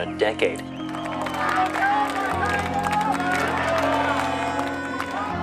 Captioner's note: crowd cheering